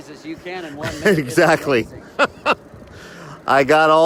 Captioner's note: laughs